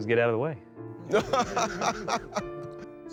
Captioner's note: laughing